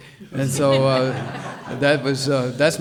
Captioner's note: audience laughs